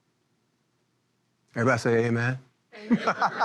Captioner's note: laughing